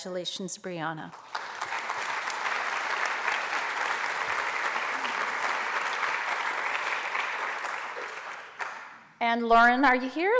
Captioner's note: applause